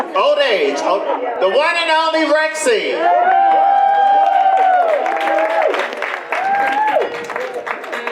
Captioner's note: audience applause